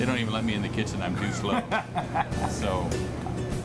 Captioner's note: laughs